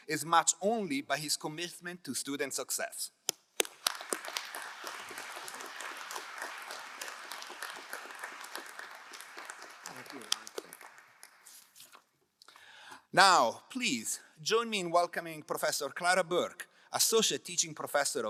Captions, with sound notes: is matched only by his commitment to student success. (crowd applauding) - Thank you. - Now please join me in welcoming Professor Clara Burke, Associate Teaching Professor